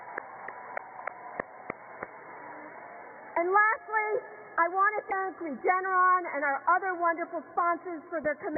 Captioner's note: cheers and applause